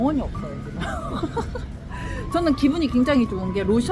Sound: laugh

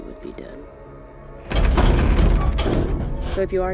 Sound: metal banging

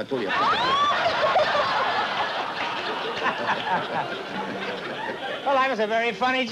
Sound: laughter

